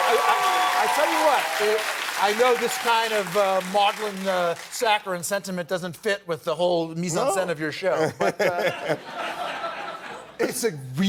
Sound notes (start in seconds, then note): 4.4 cheers and applause